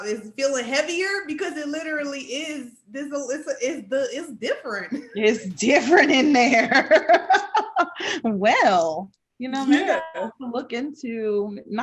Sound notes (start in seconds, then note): 5.8 laughing